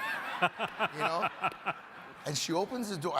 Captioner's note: crowd and panelists laughing